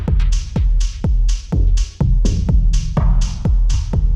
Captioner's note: none